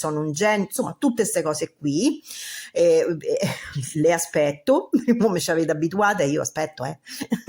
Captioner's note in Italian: risate